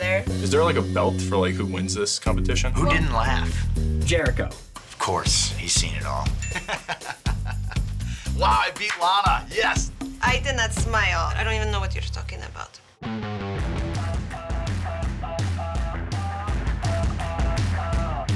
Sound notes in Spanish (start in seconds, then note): 6.4 Risas; 13.0 música rock optimista